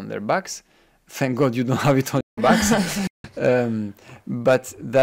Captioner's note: laughing